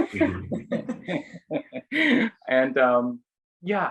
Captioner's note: group laughing